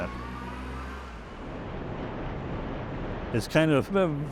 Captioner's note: vehicle engine revving